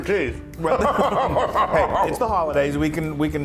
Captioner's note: laugh